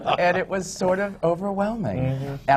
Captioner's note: laughter